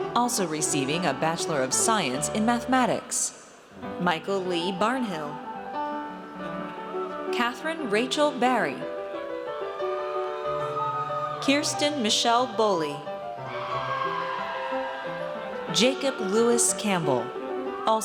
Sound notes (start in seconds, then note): 9.9 audience cheers; 13.3 audience cheers